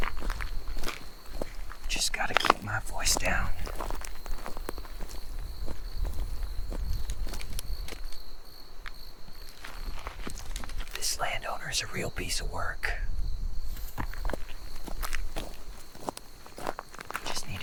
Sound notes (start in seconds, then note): 3.7 footsteps crunching; 3.7 insects chittering; 13.6 footsteps crunching; 14.1 insects chittering